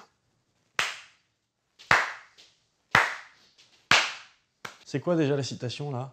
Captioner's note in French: applaudissement